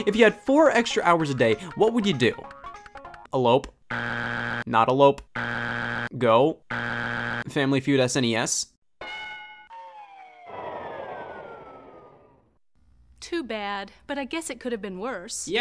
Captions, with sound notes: If you had four extra hours a day, what would you do? Elope. (buzzer beeps) Not elope. (buzzer beeps) Go. (buzzer beeps) Family Feud" SNES." (bell rings) - Too bad. But I guess it could have been worse.